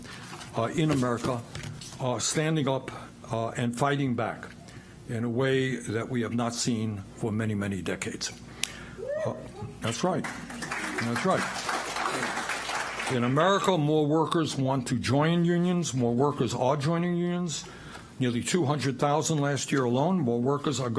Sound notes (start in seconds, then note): 13.7 applause